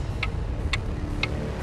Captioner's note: clock ticking